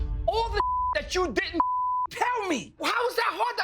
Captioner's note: beep